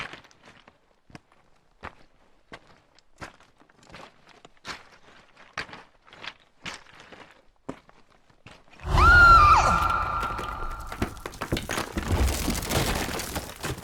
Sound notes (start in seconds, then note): 8.8 Margaret screams; 9.8 rocks scraping and tumbling